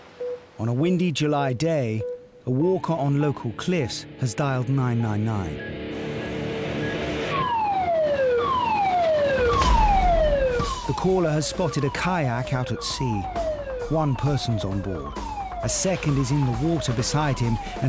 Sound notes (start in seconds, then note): 5.7 lifeboat engine whirring; 7.3 siren blaring; 9.6 intense instrumental music; 9.6 siren blaring